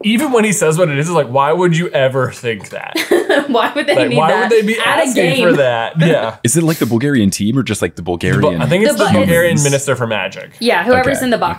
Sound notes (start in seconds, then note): 2.6 laughing